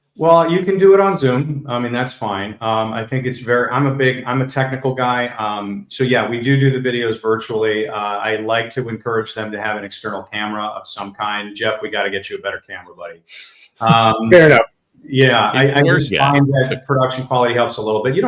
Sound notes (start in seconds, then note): 13.8 laughs